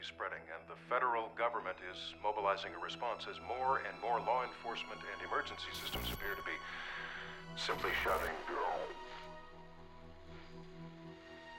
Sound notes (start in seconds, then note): 7.6 audio distorts